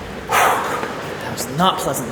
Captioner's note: exhales